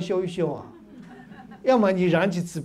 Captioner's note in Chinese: 哈哈哈